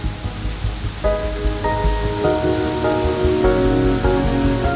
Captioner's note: leaves rustling